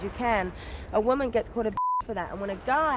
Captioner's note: beep